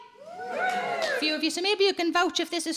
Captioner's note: audience cheering